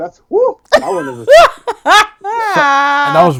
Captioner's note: laughing